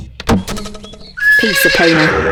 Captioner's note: horse whinnies